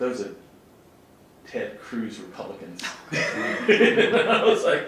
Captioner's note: laughs